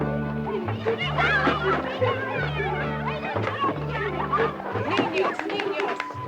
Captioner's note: children yell over each other; Gillis speaks Spanish